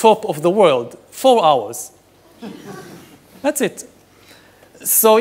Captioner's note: audience laughing